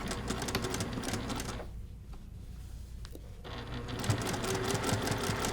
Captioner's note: sewing machine churning